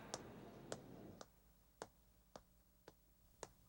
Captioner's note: footsteps tap